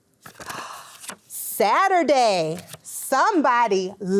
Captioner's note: gasps